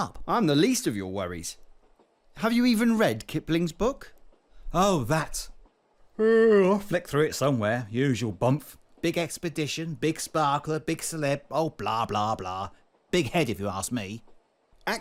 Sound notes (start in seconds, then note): 6.2 yawns